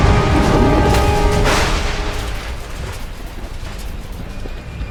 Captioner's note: dragon whooshes; thunder cracks